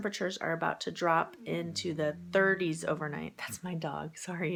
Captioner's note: dog whines